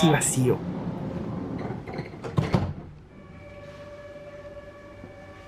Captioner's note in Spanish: sonido de cierre de las puertas